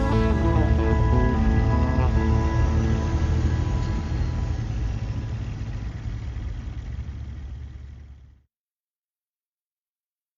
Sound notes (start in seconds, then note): 0.0 gentle upbeat music; 3.1 truck whooshing